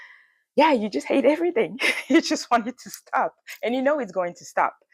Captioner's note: laughs